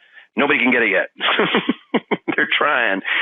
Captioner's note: laughs